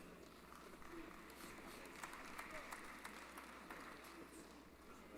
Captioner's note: applause